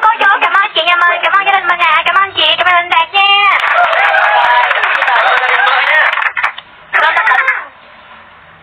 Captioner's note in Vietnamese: Vỗ tay